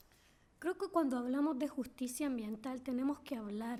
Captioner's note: speaking spanish